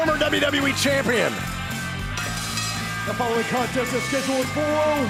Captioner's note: bell ringing